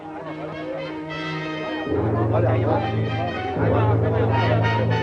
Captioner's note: dramatic music; excited chattering